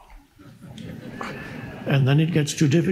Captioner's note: audience laughs